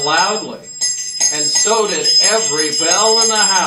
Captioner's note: bells ringing